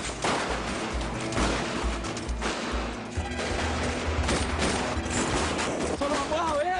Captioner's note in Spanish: Disparos